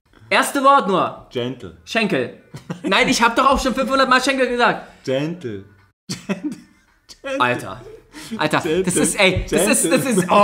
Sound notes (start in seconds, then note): 2.5 laughs; 6.2 laughs